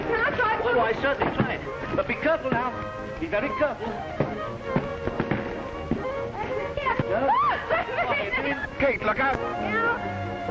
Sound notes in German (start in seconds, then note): 0.0 lacht und plappert; 7.3 Kate lacht